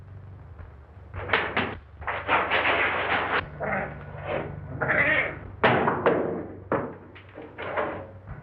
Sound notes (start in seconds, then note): 2.1 cats hissing and screeching